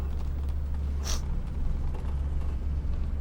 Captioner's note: sniffs